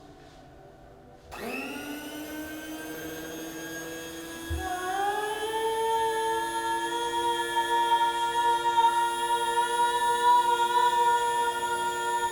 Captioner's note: coffee Grinder Whir and Matched Pitch Singing